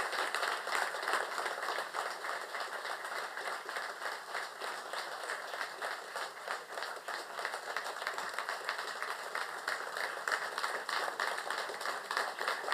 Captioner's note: applause